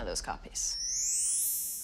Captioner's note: sparkle